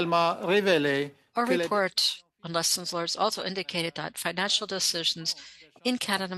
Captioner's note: speaking French